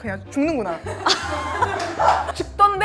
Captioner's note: ahaha